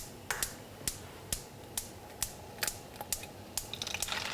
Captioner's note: burner clicking